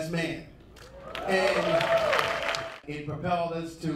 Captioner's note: applauding